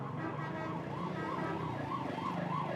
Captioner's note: traffic